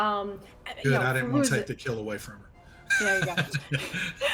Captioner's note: laughs